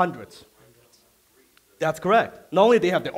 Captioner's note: audience mumbling